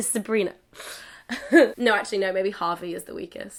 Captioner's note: laughs